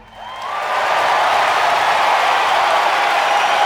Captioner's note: applause and cheering